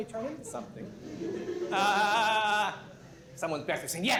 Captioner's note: laughter